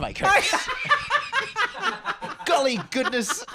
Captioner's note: laughs